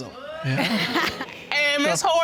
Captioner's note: laughs